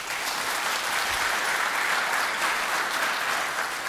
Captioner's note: applause